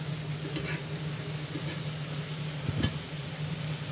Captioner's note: skillet sizzling continues; utensil scraping